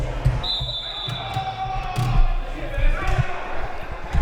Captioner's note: whistle